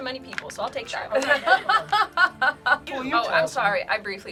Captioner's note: laughs